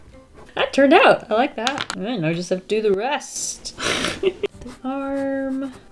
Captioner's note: laughs